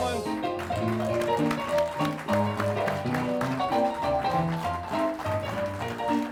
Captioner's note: upbeat music; clapping